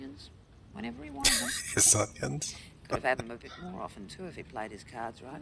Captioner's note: laughing